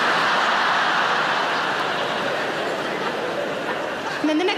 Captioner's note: audience laughing